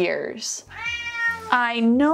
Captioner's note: Bugs meowing